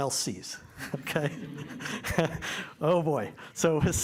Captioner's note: laughter